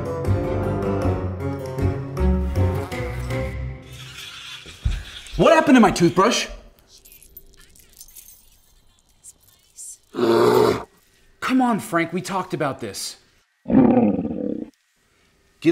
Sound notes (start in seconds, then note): 10.1 roaring; 13.6 grumbling